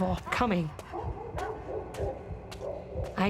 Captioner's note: thumping